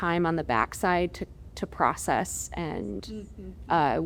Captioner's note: sounds of agreement